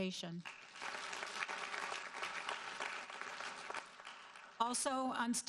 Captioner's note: audience applauding